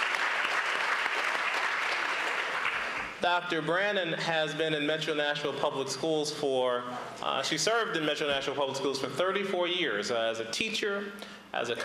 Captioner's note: applause